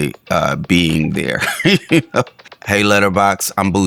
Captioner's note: laughs